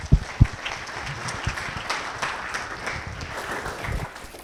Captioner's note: audience applauding